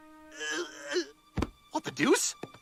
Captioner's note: Stewie groans